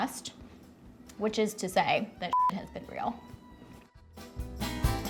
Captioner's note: beeps; whimsical klezmer music